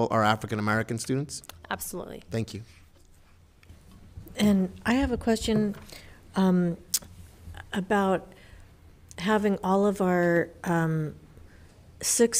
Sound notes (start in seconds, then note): none